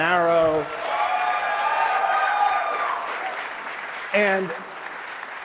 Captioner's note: applause